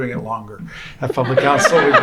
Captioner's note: laughter